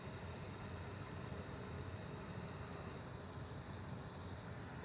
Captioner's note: ventilator hissing